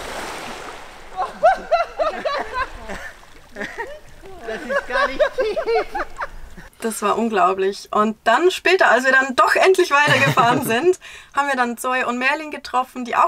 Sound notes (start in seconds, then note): 1.1 laughter